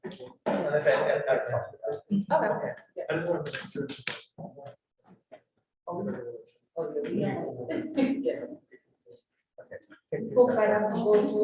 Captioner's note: all chattering